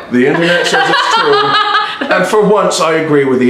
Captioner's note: she laughs